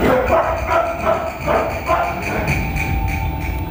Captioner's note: dogs barking